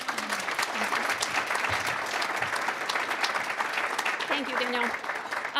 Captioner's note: applause